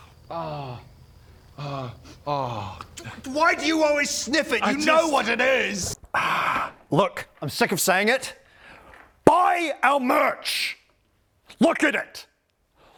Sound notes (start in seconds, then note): 1.6 sniff